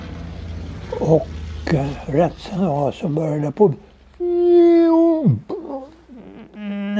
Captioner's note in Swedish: vinande ljud